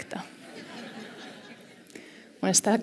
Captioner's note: laughter